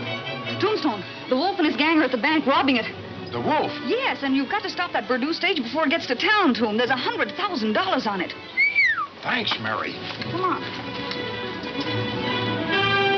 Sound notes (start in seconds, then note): 8.5 whistling; 9.2 intense western music